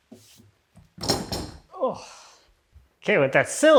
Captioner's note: object clattering; sighs